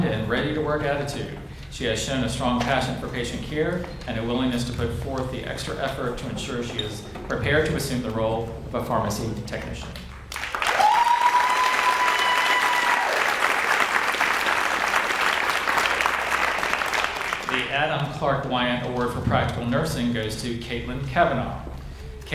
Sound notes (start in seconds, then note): 10.3 audience cheers and applauds